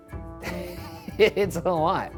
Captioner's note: laughs